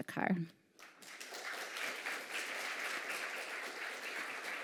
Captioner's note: audience applauding